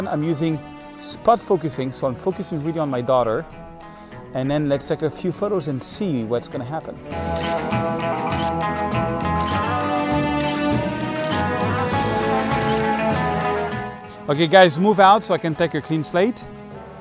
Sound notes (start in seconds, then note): 7.2 camera clicking; 7.2 upbeat music